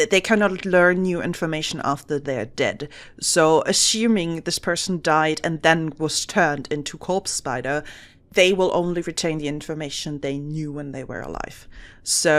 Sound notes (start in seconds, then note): none